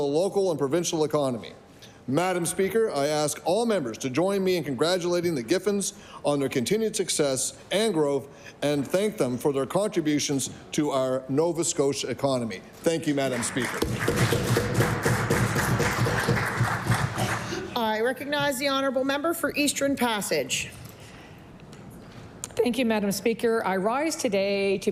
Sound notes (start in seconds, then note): 18.6 applause